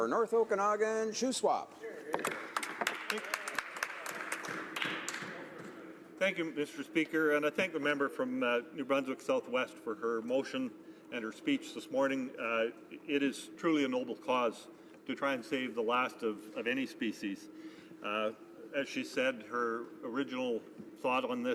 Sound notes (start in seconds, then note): 5.5 some Applause